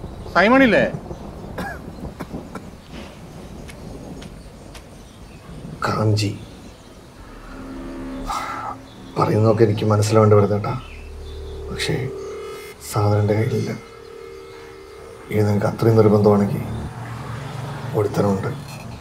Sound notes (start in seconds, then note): 1.5 coughing